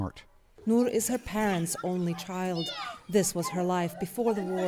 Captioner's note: voice-over